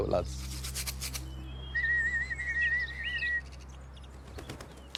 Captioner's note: fluiten